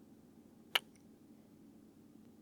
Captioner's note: kiss